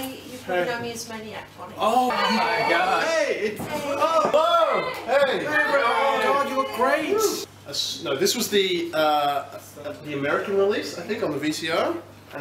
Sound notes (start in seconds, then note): 2.0 clamour of greetings; 4.0 cheering